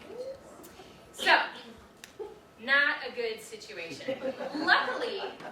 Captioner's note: audience laughing